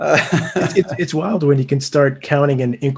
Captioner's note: laughing